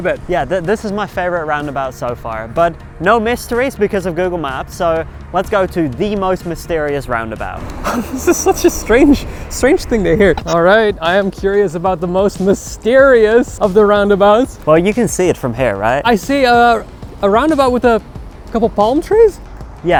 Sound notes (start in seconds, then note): 7.6 laughs